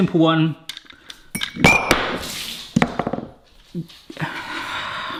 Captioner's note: lid clacks; glass clatters; sighs